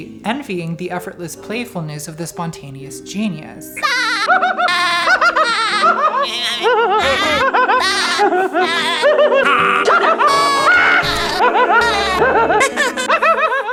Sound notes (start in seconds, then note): 3.9 Spongebob and Mozart laughing